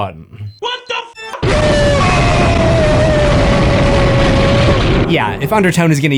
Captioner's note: boom